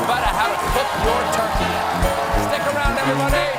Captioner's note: cheers and applause